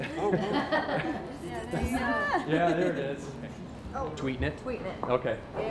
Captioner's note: laughter